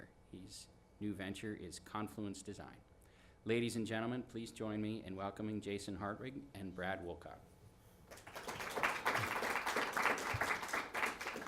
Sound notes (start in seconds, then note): 8.1 clapping